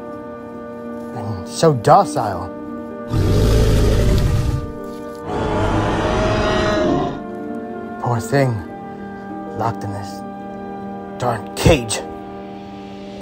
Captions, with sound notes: And so docile. (Triceratops grunting) Poor thing. Locked in this dark cage.